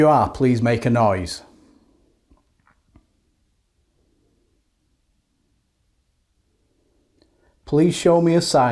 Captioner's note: silence